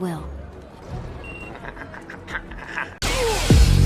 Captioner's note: Gotal laughing